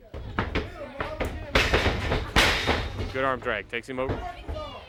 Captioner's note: crowd chatter